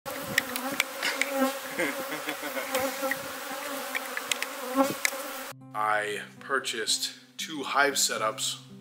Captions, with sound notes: (Bees buzzing) I purchased two hive setups.